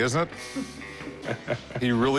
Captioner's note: laughter